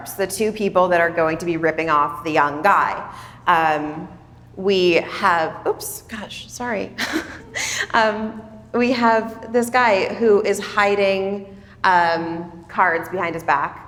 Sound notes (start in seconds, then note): 7.0 chuckles